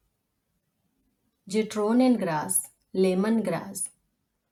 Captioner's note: in German : Zitronengras